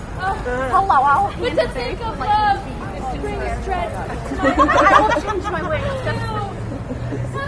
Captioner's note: laughter